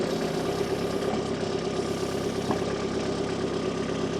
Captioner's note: motor whirring